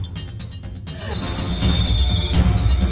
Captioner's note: screaming; tense drumming